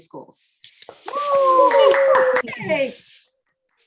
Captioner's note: cheers